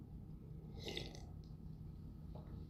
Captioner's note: slurp